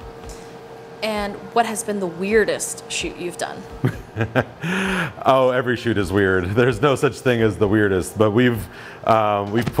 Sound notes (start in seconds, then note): 3.8 laughs